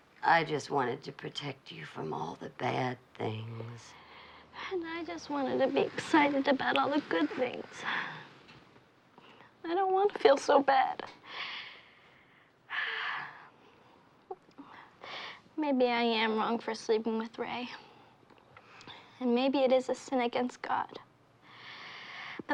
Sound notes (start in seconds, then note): 12.1 sighs